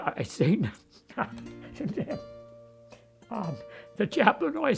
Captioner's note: speaks faintly